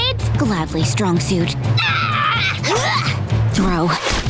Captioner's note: roaring